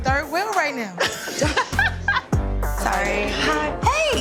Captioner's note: laughs